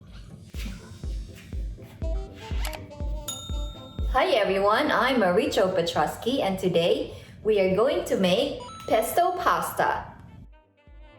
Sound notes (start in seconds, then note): 3.3 computer mouse clicks, Bell ringing